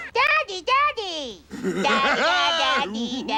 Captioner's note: Earl laughing